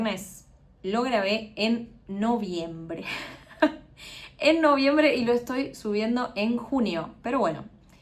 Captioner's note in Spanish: risas